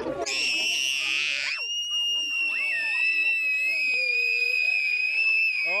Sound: children screaming and laughing

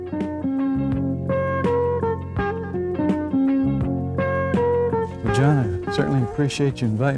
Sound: insects chirping

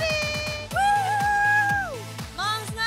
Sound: Snooki cheering

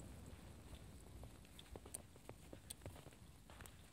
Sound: fire crackling

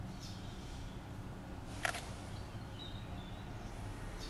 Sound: camera snaps photo

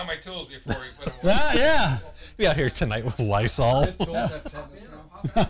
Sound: laughing

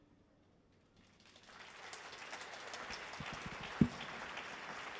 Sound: audience applauds

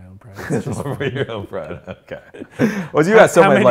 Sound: laughs

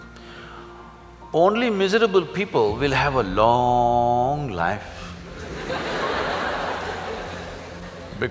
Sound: laughter

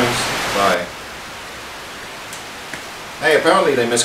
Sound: static noise

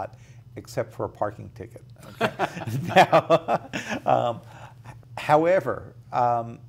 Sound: laughs

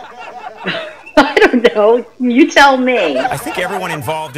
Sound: laughs

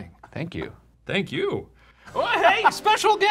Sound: laughing

